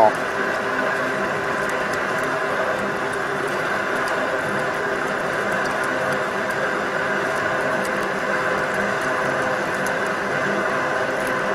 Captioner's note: machine Noise